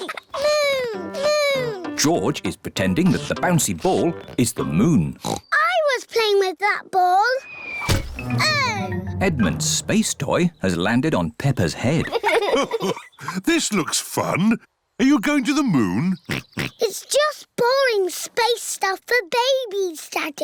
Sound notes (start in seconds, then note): 5.2 oinks; 7.8 thudding; 12.0 chuckles; 16.2 oinks